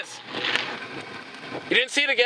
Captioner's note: sparks sizzling